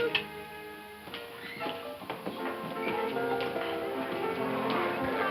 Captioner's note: gentle music; footsteps approaching